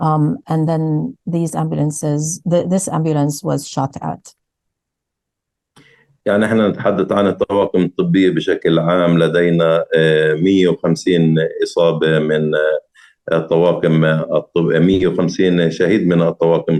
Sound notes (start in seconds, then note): 6.0 speaking arabic